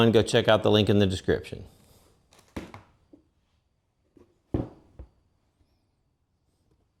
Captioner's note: silence